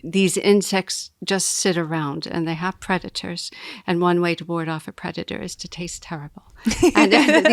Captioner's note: laughing